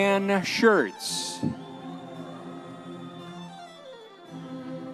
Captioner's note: audience members cheering; classical orchestral music continues